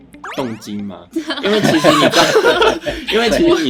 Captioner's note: laughers